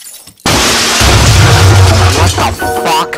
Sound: boom

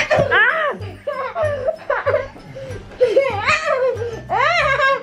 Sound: children laughing; laughing

